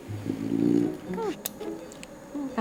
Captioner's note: Angel snoring